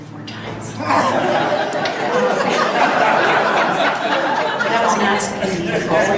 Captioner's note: audience laughs